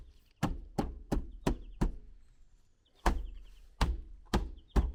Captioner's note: fist pounding